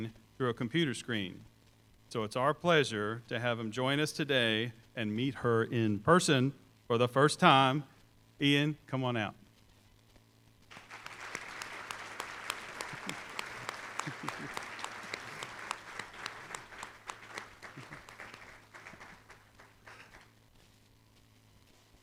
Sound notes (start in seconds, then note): 10.7 applause; 11.4 chuckles